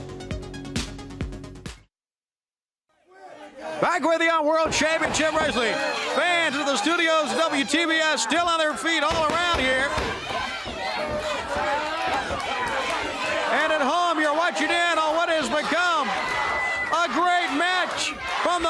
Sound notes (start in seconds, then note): 10.9 crowd chatter